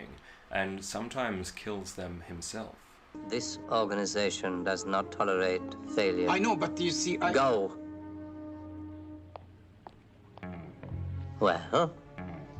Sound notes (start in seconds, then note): 8.4 footsteps